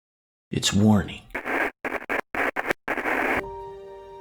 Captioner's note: Static